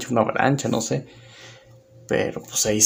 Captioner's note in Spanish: Silencio